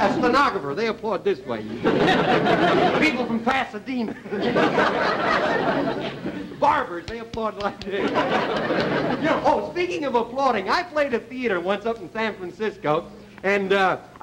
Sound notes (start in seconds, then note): 2.1 laughter